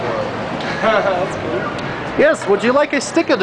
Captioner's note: laughs